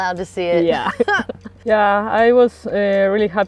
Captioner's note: chuckles